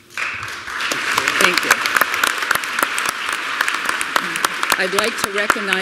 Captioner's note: applause